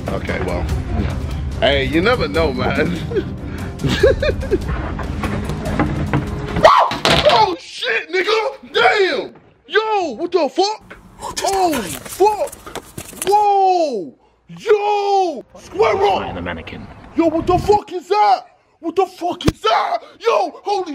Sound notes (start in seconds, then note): 7.2 yells